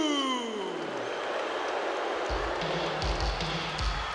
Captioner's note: audience cheering; upbeat music